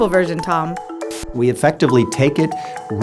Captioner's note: static